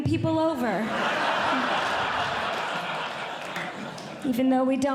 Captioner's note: audience Laughing